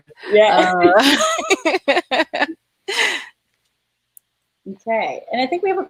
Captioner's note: laughing